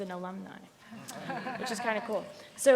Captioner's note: panelists laughs